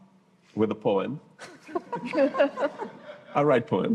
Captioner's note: laughter